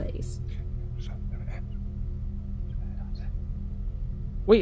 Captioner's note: whispering